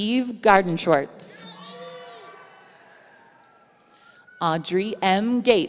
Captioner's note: audience cheering